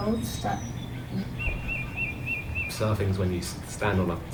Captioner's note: birds chirping